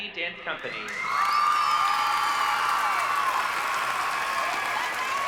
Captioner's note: cheers and applause